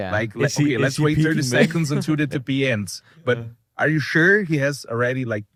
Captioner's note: laughs